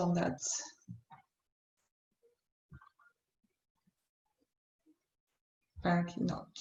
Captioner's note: silence